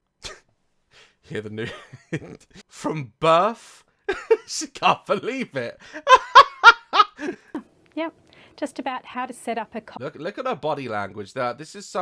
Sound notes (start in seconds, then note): 0.2 sniggers; 1.6 laughs; 5.8 laughs